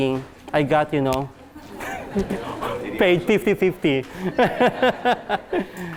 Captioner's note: laughs